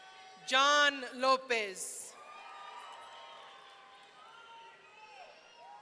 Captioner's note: audience cheering